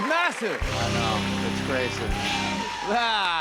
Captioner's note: cheers and applause